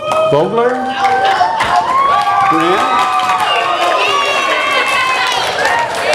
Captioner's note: audience applause